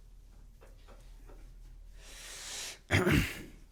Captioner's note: laughing